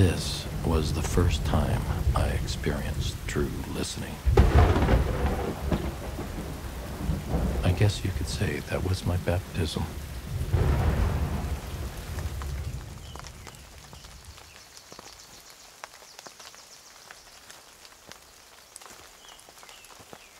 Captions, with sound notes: This was the first time I experienced true listening. I guess you could say that was my baptism. [thunder crashing] [rain pattering lightly]